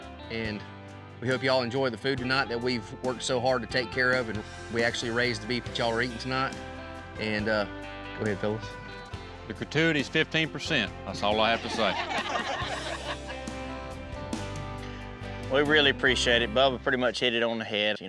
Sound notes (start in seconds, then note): 11.5 everyone laughs